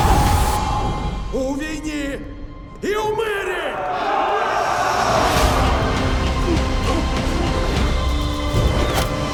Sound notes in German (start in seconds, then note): 3.6 Kampfgeschrei